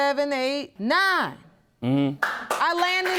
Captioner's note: audience applauding